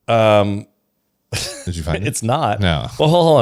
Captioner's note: laughs